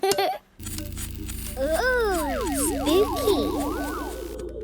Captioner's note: pulsing